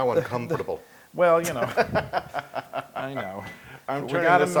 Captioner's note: laugh